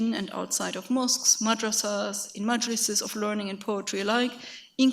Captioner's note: speaks in a foreign language